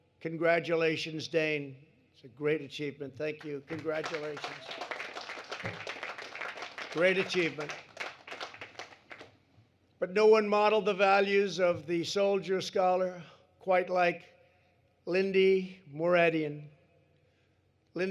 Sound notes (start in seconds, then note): 3.3 applause